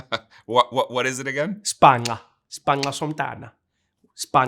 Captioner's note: speaking Xhosa